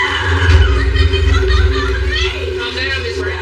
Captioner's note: eerie music; womanan screamsms